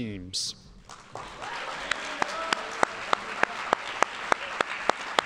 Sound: audience applauding

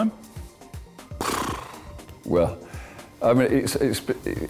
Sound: blows raspberry

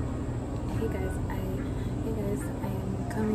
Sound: stammers

